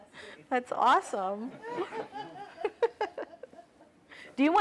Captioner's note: laughter